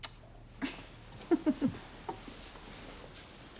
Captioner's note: giggles